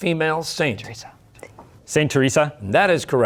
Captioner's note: whispering